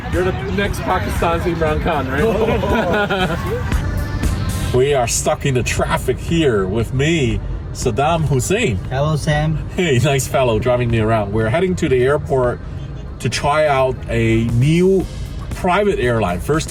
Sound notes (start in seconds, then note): 2.0 giggles; 3.7 upbeat music